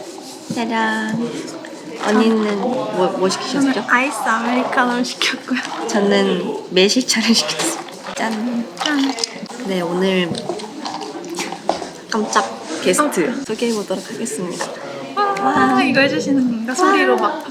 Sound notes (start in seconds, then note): 11.3 laughs